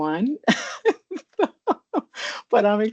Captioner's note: chuckles